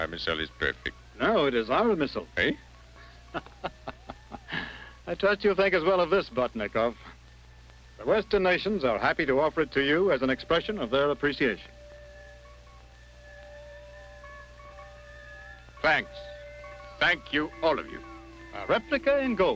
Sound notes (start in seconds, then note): 3.0 laughs